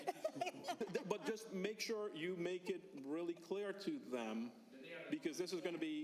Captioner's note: laughter